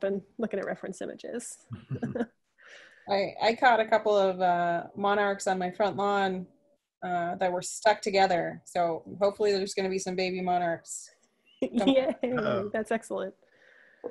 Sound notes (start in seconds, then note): 1.7 laughing; 11.7 laughs